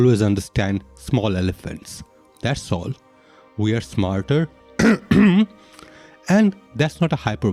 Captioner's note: cough cough